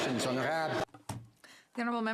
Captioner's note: some Applause